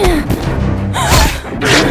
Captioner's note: Iliya grunts; Iliya gasps